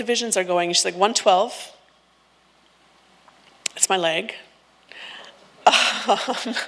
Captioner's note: laughs